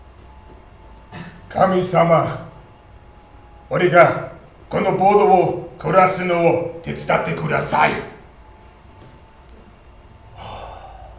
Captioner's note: japanese anime warcry